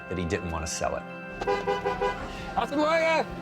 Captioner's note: van horn honks